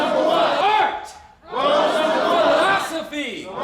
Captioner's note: crowd